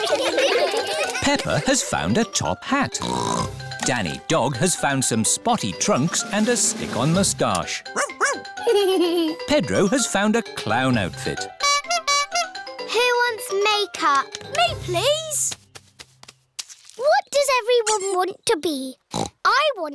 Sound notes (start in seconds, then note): 0.0 all giggle; 3.0 snorts; 8.6 giggles; 11.5 toots horn; 19.1 snorts